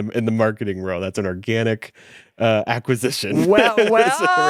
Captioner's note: laughs